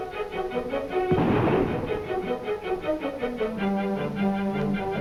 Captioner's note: upbeat music; gunshot firing